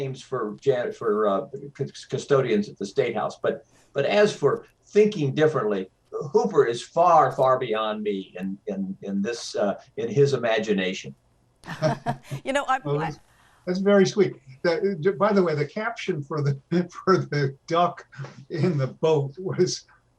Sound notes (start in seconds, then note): 11.7 all laugh